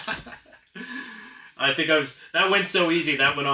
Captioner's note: laughing